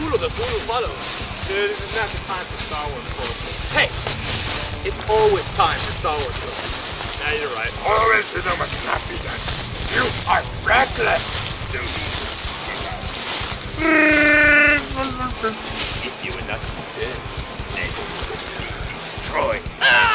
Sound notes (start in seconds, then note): 8.1 in Yoda voice; 11.8 In Emperor palatine voice; 14.3 In Chewbacca voice; 16.4 In Emperor Palpatine voice